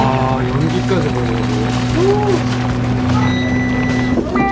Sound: boiling

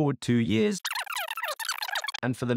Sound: fast advancing sound effect

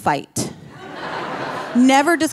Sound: audience laughing

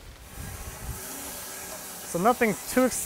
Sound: saw running

